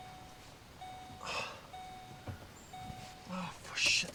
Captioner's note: car beeps